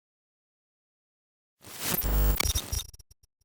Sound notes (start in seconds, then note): 1.7 electronic vibration